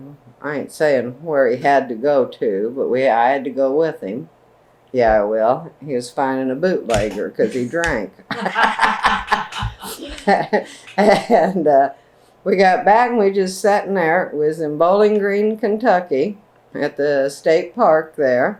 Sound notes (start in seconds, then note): 8.3 laughter